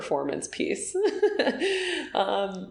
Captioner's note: laughing